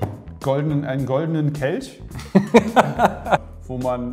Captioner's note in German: lacht